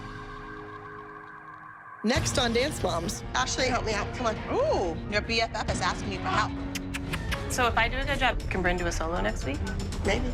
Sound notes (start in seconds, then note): 6.6 kissing noises